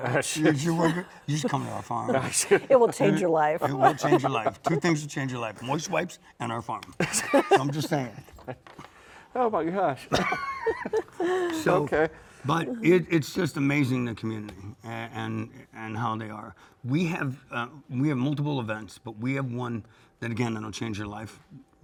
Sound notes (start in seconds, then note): 7.0 laugh; 10.1 laughs